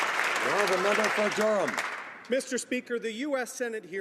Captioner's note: some Applause